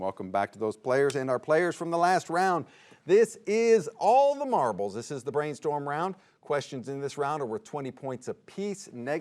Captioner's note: none